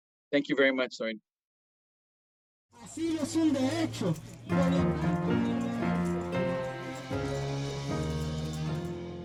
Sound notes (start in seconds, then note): 2.9 marchers protesting; 4.1 serious piano music